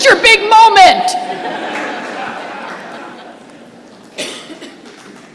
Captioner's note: laughter